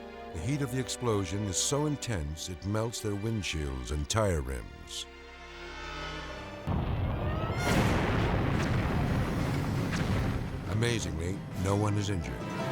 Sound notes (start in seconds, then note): 6.6 explosion blasting